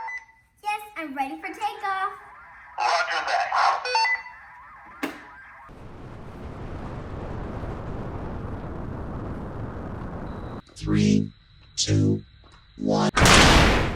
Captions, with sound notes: Yes, I'm ready for takeoff! Roger that! [Computer Countdown] Three, Two, One!